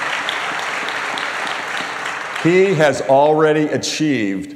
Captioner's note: applause